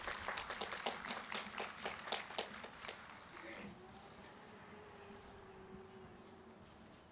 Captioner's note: applause